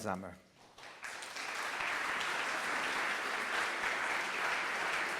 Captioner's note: audience applauds